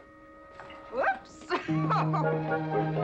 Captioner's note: giggling